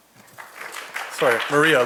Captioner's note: audience applauding